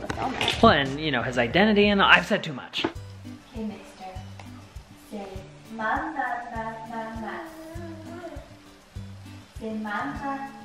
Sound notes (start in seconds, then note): 7.5 baby babbles